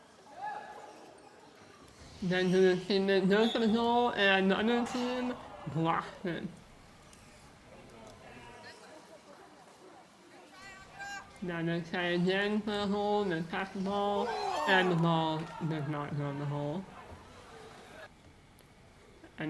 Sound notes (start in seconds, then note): 0.2 audience whoops; 4.7 audience gasps; 14.2 audience groans